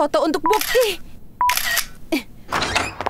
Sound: camera clicks; door creaks

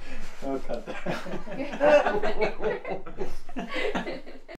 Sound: laughter

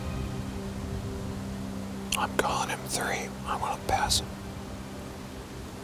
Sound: whispering

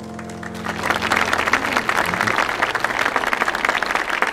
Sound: audience applauding

